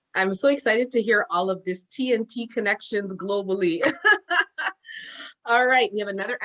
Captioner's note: laughs